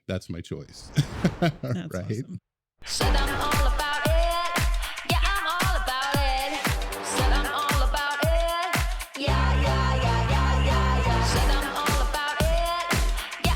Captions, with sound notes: That's my choice. (laughs) That's awesome. Said I'm all about it Yeah, I'm all about it Said I'm all about it Yeah, yeah, yeah, yeah, yeah, yeah Said I'm all about it